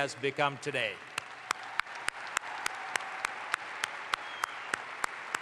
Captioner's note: audience applauds